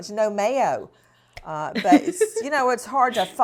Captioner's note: laughs